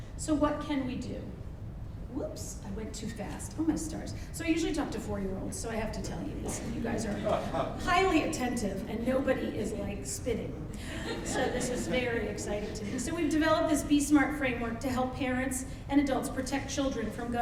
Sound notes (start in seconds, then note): 7.2 man laughs; 10.7 audience laughs